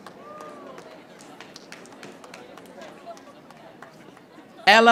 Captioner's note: audience applauding